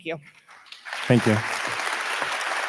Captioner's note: audience applauding